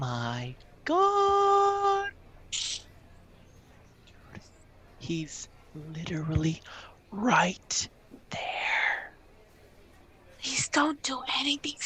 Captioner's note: hushed